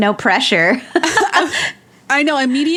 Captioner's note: both laugh